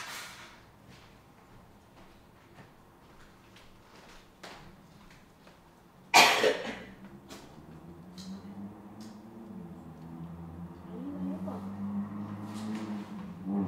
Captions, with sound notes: (coughing) I need my notebook.